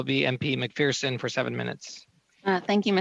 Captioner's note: speaking French